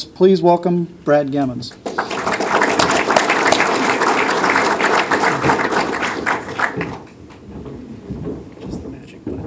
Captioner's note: applause